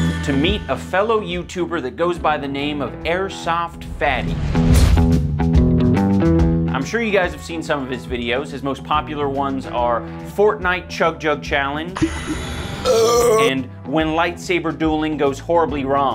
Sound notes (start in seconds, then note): 12.8 burp